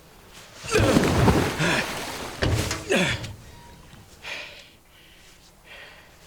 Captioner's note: water splashing; Nolan grunts